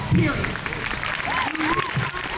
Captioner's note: crowd cheers